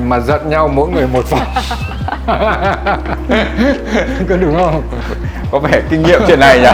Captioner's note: laugh